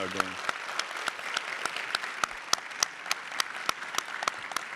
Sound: audience applauding

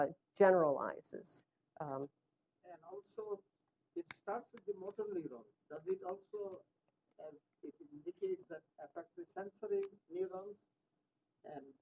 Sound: off microphone

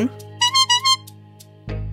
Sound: message tone

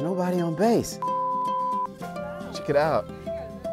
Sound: tone beeps

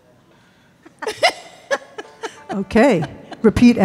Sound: both laughing

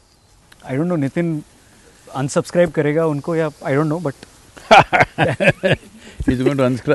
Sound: Sadhguru Laughs

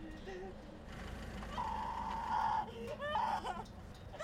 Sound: girl screaming

